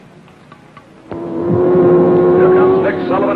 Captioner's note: car revving